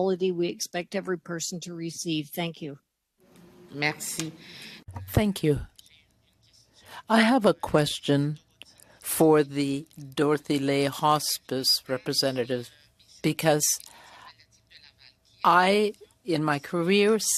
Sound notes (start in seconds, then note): 9.9 speaking French